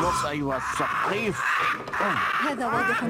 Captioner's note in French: squawk squawk